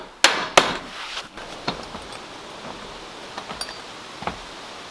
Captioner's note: trees rustling